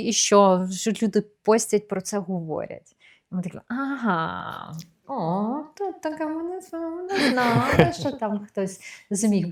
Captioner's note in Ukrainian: сміх